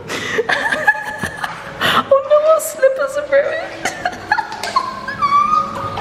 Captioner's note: laughing; laughing